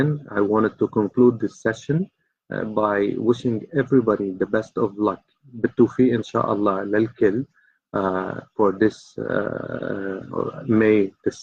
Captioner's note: speaking in Arabic